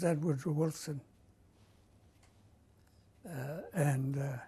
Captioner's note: pauses for 3 seconds